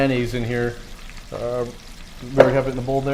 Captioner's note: bubbles splattering